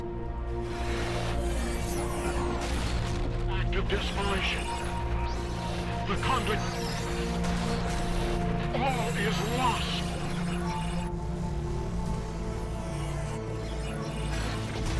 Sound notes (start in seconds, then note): 0.0 static; 2.6 static